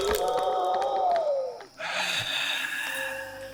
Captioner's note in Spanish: Isaac jadea